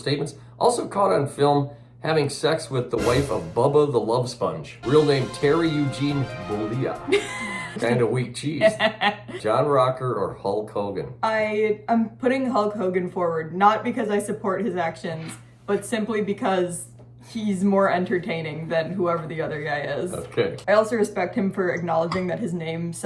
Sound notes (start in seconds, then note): 4.8 sport music; 7.1 laughing